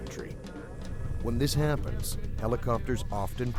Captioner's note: voiceover